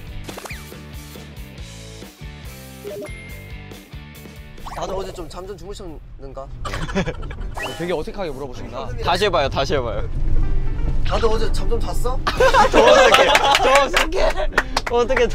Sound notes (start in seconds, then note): 6.6 ha ha